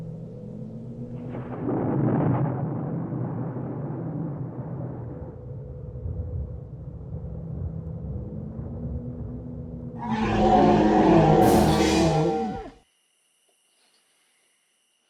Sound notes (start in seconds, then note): 2.1 crickets chirping; 2.1 growling